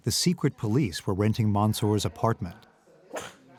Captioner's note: dog sneezes